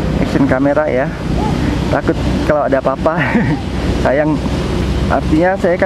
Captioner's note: chuckle